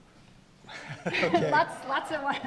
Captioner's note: laughing